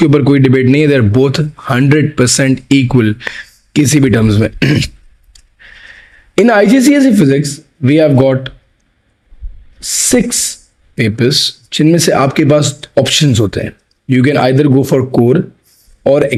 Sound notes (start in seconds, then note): 4.6 clears throat